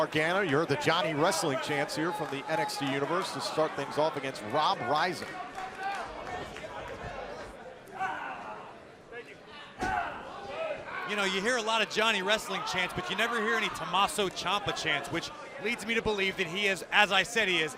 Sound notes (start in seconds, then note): 5.6 crowd cheering